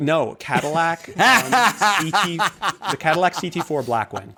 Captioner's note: laughter